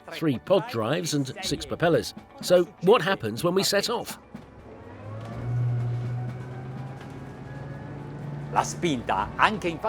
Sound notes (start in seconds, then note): 4.8 boat speeding